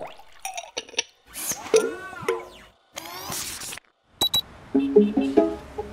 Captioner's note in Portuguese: Som de líquido derramando; Bips; Som mecânico